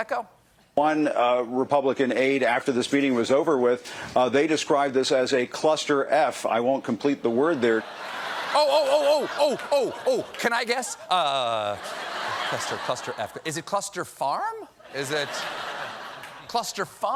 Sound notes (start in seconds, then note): 11.0 laughter